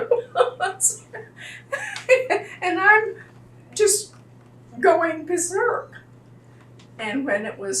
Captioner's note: laughs